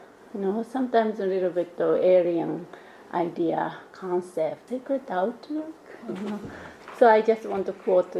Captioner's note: laughs